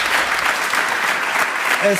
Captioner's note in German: Applaus